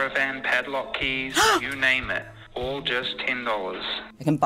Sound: gasps

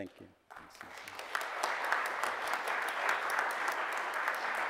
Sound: audience applauds

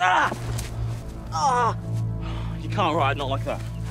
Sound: yells, then groans

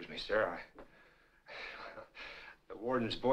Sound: chuckles

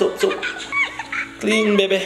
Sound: baby laughing

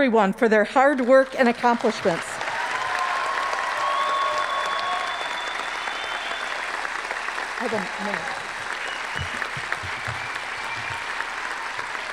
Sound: applause

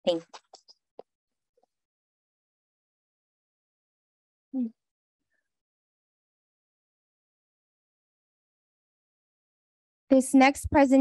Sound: silence

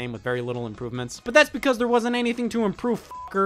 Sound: beep

